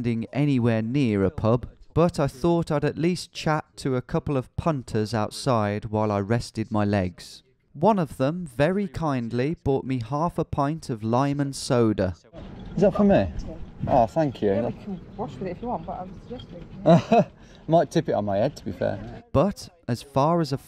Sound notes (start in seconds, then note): 16.8 laughs